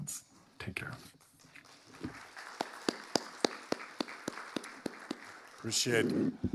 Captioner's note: audience applauding